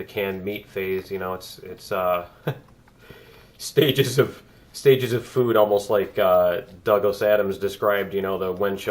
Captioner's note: laughs